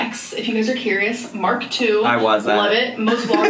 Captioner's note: laughs